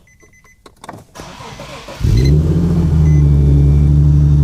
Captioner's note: engine starting